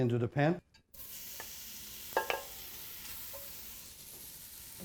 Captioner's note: sizzling